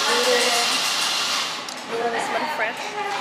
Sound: milk-steaming

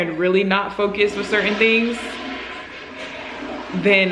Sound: toilet flushes

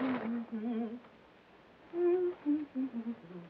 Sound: humming

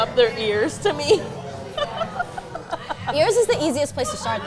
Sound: laughs

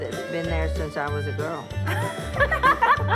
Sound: laughing

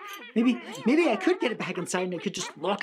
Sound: critters yelling and mumbling

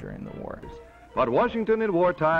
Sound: voiceover

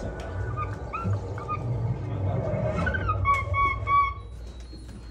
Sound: monkey makes noise

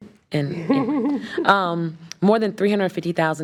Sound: trustees chuckling

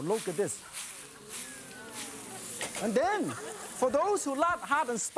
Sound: crowd; laughter; oohs and ahs

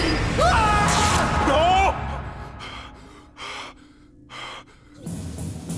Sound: screaming; panting

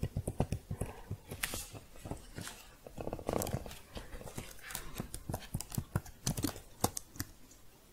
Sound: shuffling, then typing

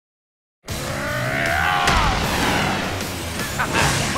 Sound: roaring

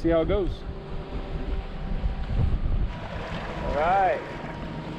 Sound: boat engine idling

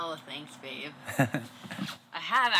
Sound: chuckles

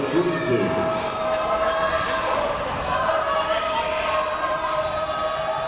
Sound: people shouting in the crowd

